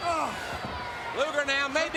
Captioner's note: Lex groans